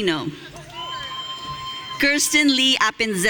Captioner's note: audience cheering